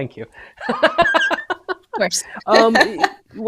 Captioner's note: laughs